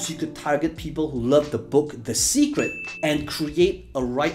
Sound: bell ringing

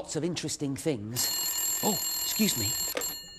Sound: telephone rings

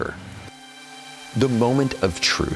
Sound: drone whirring

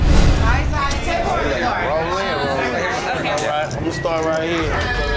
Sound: crowd chatters

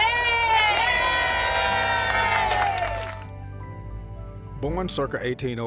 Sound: audience applauding

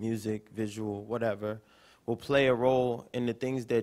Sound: none

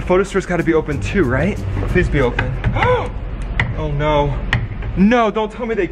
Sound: gasping

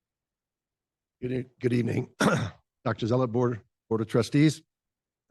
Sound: clears throat

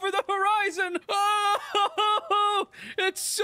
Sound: wailing

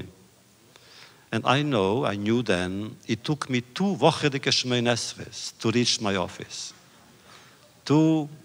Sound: Yiddish

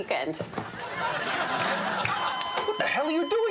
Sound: audience laughing

